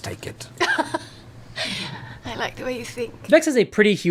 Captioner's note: laughs